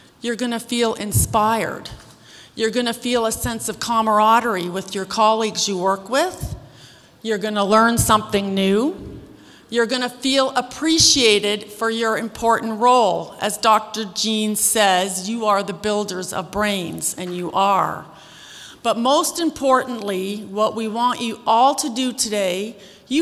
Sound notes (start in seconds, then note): none